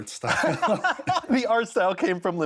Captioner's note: laughter